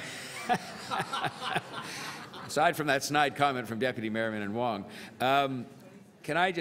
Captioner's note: laughter